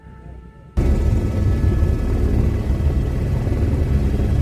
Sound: helicopter engine

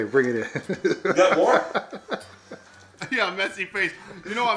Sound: laughing

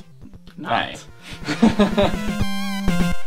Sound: laughs

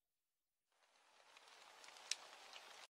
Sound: birds chirping; water splashing

